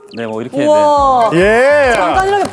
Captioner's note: cheers